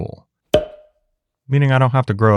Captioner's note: bottle popping